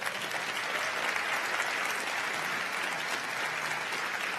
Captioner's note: crowd applauding